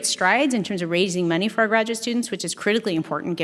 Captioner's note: none